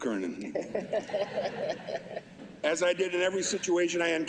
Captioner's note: laughter